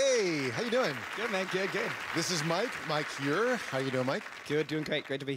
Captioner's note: applause